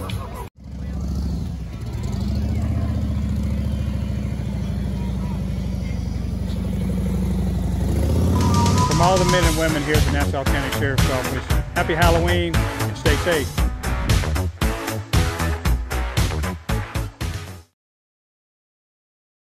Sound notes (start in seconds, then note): 0.6 engine roaring; 14.0 upbeat music